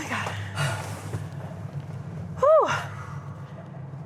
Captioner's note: Chris sighs